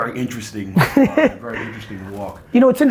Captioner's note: laughs